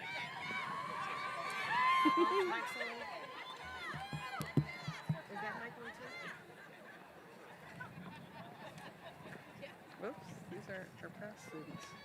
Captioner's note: cheers and Applause